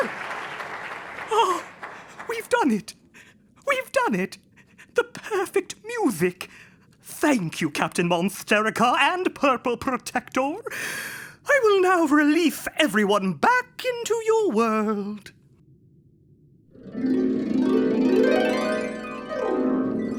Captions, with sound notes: (clapping) - We've done it, we've done it. The perfect music. Thank you, Captain Monsterica and Purple Protector. I will now release everyone back into your world. (dreamy heart music)